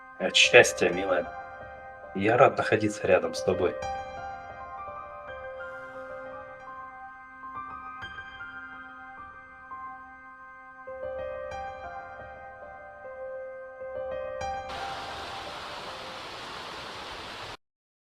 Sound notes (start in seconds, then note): 14.7 rain